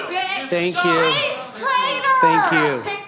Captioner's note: crowd Noise; shouting